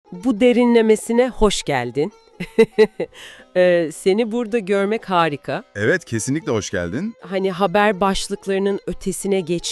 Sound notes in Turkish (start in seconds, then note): 2.4 kahkaha